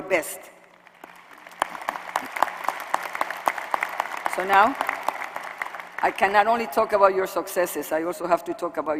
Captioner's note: applause